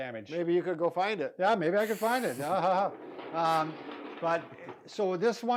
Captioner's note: laughing sarcastically